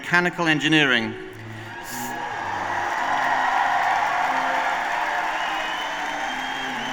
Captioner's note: applause